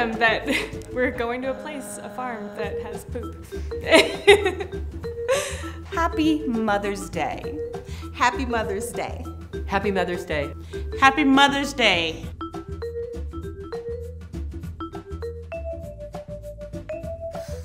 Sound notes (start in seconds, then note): 3.8 laughing